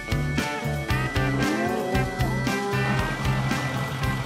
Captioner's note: cows moo